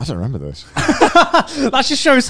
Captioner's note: laughs